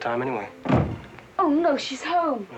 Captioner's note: door slams downstairs